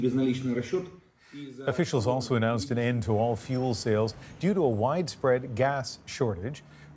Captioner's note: speaking Alternate Language